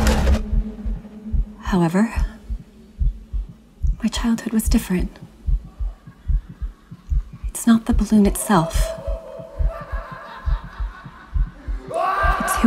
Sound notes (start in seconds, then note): 9.6 laughing